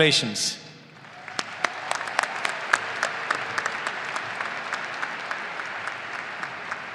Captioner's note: audience applauding and cheering